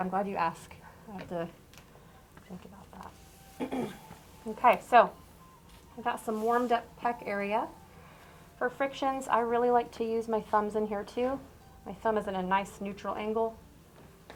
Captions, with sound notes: I'm glad you asked so I have to think about that. [CLEARS THROAT] OK, so I got some warmed up pec area. For frictions, I really like to use my thumbs in here too. My thumb is in a nice, neutral angle.